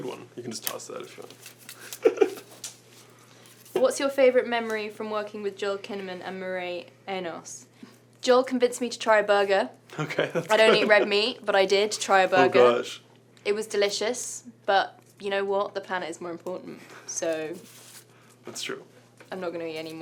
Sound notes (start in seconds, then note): 1.8 laughs